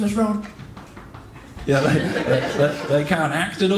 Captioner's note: footsteps